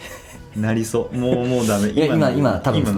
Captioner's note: laughs